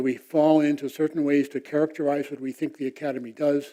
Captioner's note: none